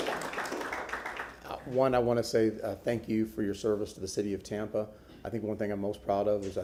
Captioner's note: applause